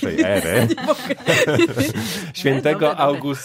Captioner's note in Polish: śmiech